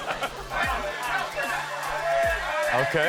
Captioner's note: all laughing; men cheering